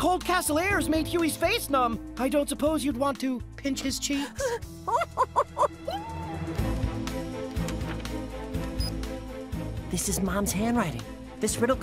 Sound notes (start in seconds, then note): 4.0 gasps; 4.8 laughing; 8.8 beeps